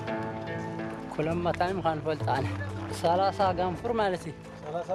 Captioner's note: speaking in foreign